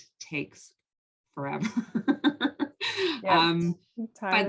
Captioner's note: laugh